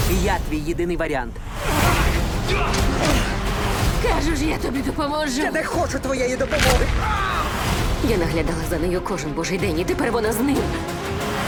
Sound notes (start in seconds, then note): 2.3 dramatic music plays; 6.5 bone cracks